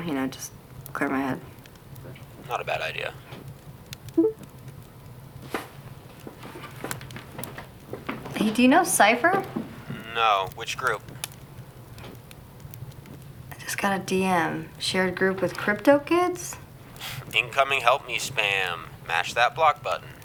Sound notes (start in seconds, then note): 4.2 computer chimes; 16.9 scoffs